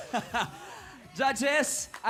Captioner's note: chuckles